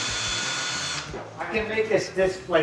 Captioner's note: drill buzzing